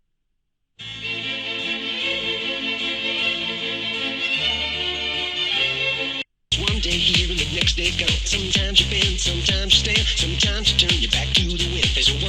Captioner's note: laughs